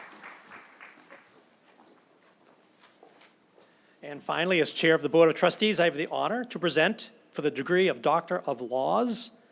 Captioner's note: applause